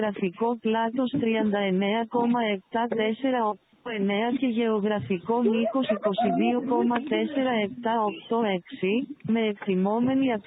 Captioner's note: passenger voices and screams